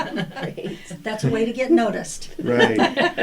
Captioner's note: laughter